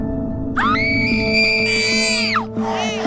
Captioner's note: screaming; baby crying